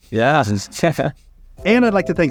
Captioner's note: chuckles